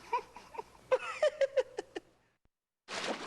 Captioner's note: laughing